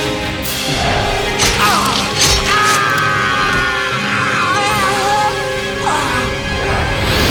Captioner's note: knife slashing; Mindy's dad screaming